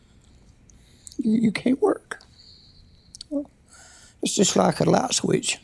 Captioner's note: voice breaking